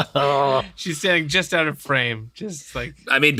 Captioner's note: laughter